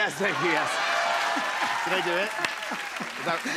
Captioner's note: cheers and applause